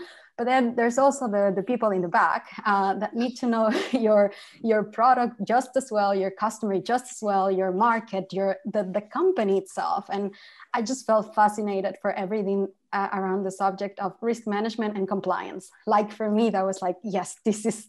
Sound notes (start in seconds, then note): 3.7 laughter